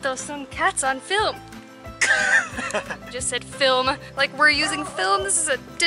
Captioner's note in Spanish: Risas